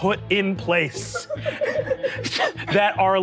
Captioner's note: players laughing